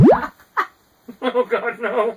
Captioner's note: laughing